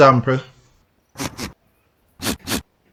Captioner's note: goat sneezing